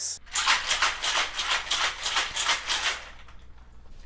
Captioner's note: shaking drink